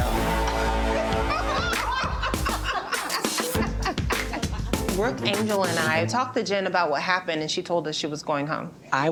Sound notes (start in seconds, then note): 0.3 group laughs